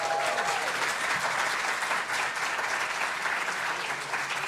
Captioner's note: applause